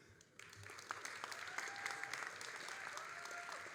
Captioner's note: all applauding